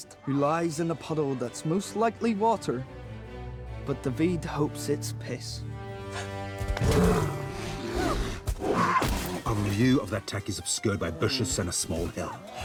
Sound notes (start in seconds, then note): 6.7 growling; 8.6 screams